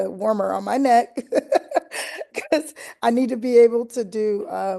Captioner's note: laughter